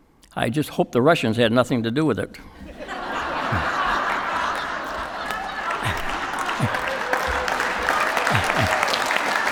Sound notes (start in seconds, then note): 2.6 laughter; 4.9 applause